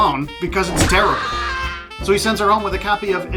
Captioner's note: Home Alone scream